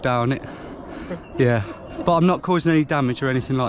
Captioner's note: groundskeeper laughing